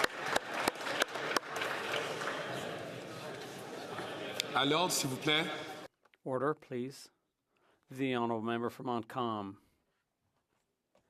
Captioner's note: some Applause